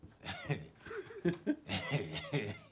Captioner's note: chuckling